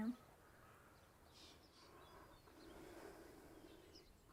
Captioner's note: birds chirping